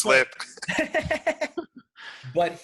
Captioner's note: laughing